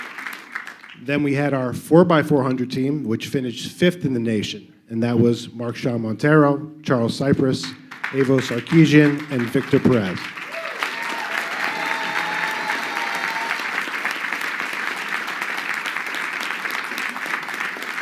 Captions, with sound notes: Then we had our 4 by 400 team, which finished fifth in the nation. And that was Mark Sean Montero, Charles Cypress, Evance Akijen, and Victor Perez. (crowd clapping)